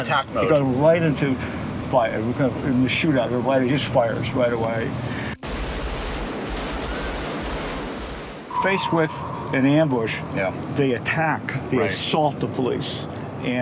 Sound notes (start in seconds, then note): 5.4 gunfire bursting